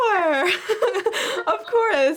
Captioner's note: laughing